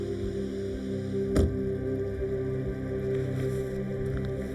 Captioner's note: car door bangs